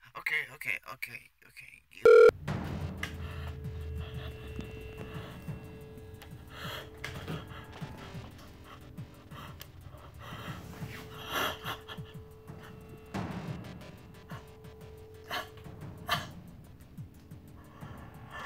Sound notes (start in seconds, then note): 3.0 moody electronic music; 3.0 woman sobs